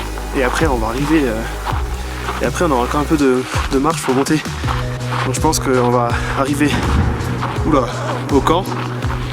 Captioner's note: boom